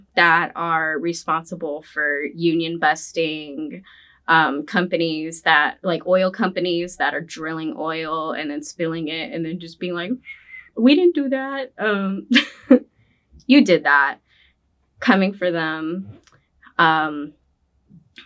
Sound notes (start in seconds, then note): 10.2 whistling